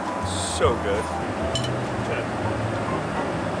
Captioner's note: silverware clinks